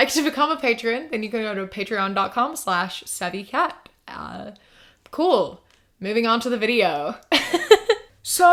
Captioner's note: laughs